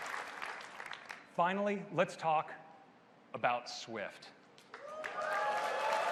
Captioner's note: applause